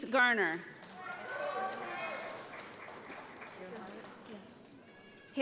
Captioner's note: audience applauds